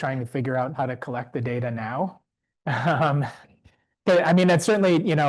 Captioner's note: chuckles